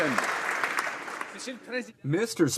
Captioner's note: some Applause